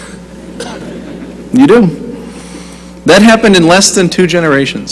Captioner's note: laughter